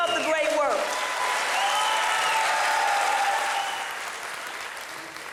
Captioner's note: audience applauding